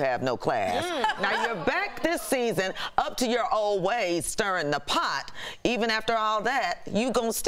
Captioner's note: laughter